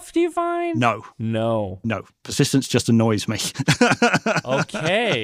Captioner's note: laughs